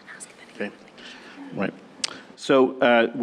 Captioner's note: whispers